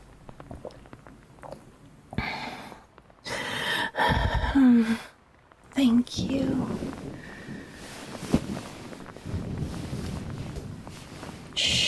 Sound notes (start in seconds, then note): 3.3 she finally lets go and inhales with a satisfied sigh; 6.6 fx: more thrashing